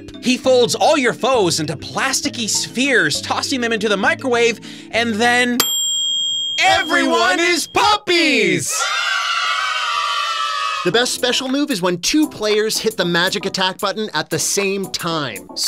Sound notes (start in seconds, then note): 5.6 microwave ding; 8.6 group of kids shouting